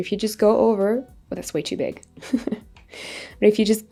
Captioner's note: laughs